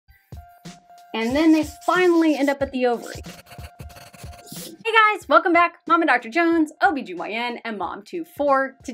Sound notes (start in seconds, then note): 3.0 paper rasping; 3.4 marker scratching